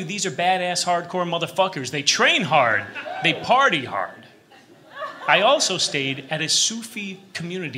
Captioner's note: laughter